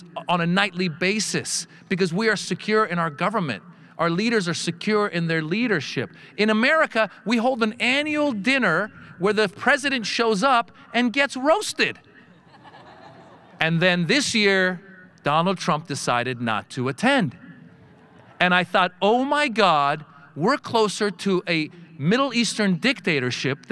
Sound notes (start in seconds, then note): 12.3 audience laughing